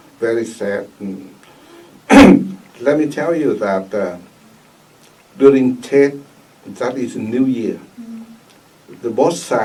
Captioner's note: clears throat